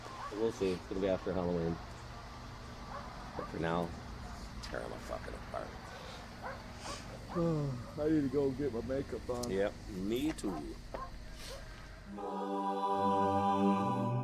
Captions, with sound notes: WE'LL SEE, IT'LL BE AFTER HALLOWEEN. BUT FOR NOW, TEAR THEM FUCKING APART. [YAWNS] I NEED TO GO GET MY MAKEUP ON. YEP, ME TOO.